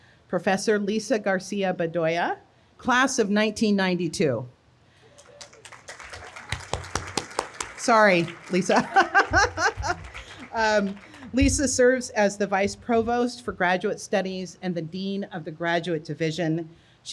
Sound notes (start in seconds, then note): 5.1 audience applauding; 8.6 laughs